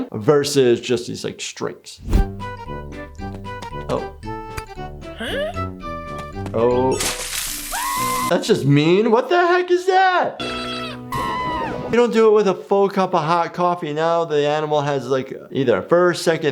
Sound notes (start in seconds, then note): 7.7 Cuddles screams; 10.4 Cuddles screaming